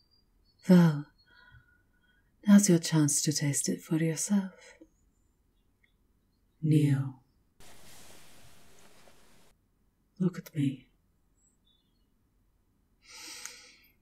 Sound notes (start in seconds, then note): 6.5 her voice echoes with command; 7.6 you obey, clothes rustling as you slowly fall to your knees; 12.7 she takes a breath, glaring angrily